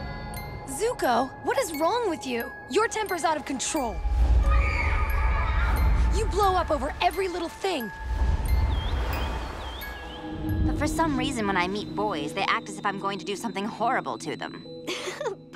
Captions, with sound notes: Zuko, what is wrong with you? Your temper's out of control. [screaming in distance] You blow up over every little thing. [chiming] For some reason, when I meet boys, they act as if I'm going to do something horrible to them. [chuckles]